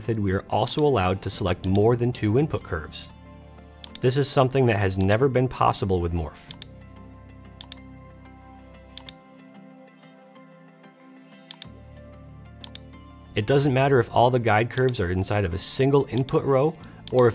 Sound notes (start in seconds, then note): 6.8 gentle instrumental music; 6.8 mouse clicking